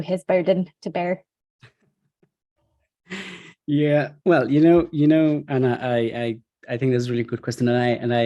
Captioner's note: laughs